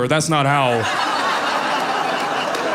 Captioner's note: audience laughing